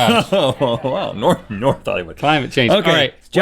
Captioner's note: laughing